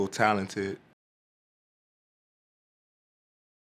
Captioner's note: silence